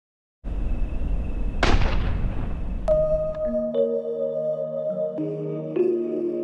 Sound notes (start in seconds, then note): 1.6 gun blasts; 2.8 gentle music